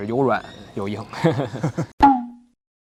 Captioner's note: both laughs